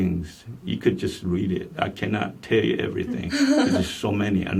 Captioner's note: laughs